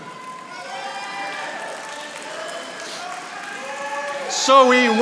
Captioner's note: audience applauding